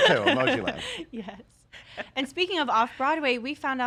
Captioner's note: chuckles